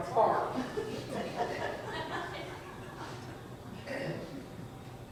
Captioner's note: audience chuckles